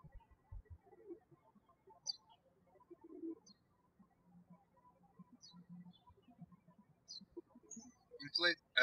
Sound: birds chirping

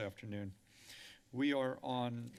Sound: inhales

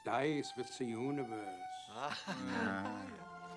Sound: all chuckling

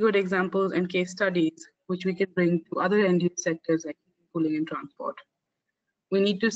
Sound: audio static

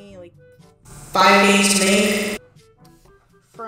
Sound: ear-rape

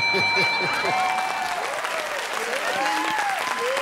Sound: laughs; cheers and applause

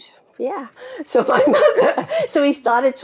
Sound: daughters laughing

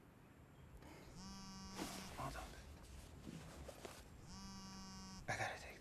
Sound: phone vibrating

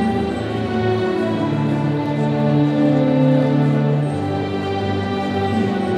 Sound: none

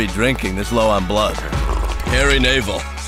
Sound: laughs; sipping

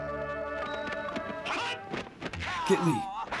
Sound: fighting sound effects

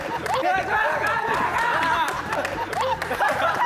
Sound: haha

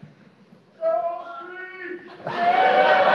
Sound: laughing; cheering; applause

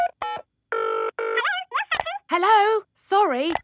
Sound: dials phone; on phone

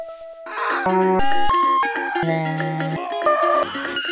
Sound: synth music; screaming

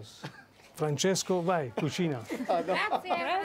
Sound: speaking Italian

